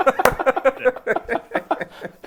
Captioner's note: laughs